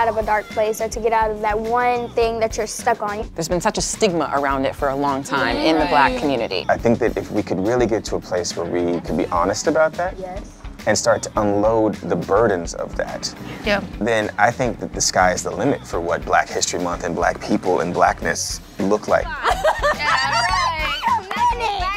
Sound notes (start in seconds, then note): 19.3 laughing